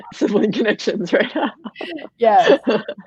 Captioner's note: laughing